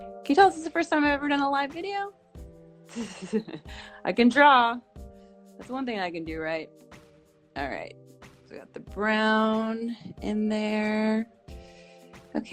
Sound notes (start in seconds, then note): 3.0 laughs